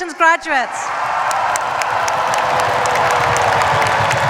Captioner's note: cheers, applause